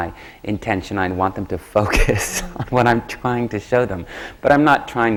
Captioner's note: laughs